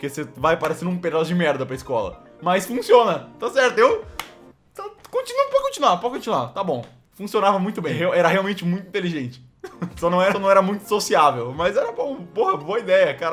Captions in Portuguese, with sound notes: Porque você vai parecendo um pedaço de merda, pra escola Mas funciona... Tá certo Continua... pode continuar, pode continuar... Tá bom Funcionava muito bem, era realmente muito inteligente (risos) Só não era... Só não era muito sociável, mas era bom... Porra, boa idéia !